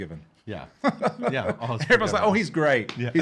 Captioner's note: laughing